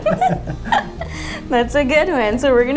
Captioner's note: both laughs